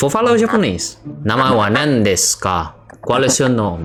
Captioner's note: speaking super mega fluent Japanese